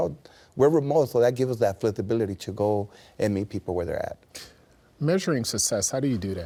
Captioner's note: none